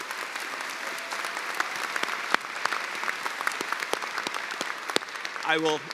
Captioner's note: cheers and applause